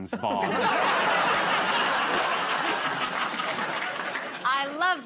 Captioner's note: laughter